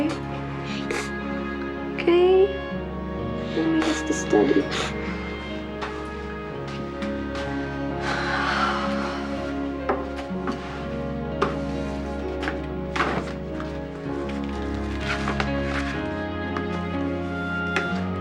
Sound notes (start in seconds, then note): 0.6 molly sniffling; 7.4 sighs